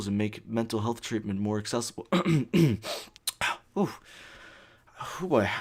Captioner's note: coughs like a bitch